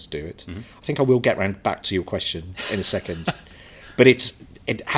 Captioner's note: chuckles